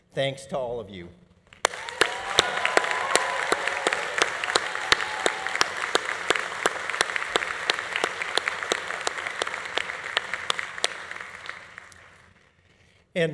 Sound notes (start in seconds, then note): 1.6 audience cheering; 1.7 audience applauding; 9.8 audience applause continues